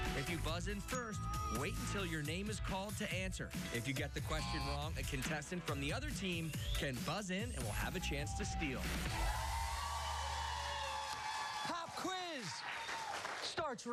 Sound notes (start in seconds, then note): 9.3 cheers and applause